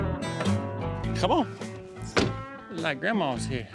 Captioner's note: door closes